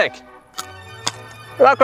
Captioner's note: chomp chomp